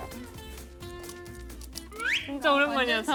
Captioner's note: Crunch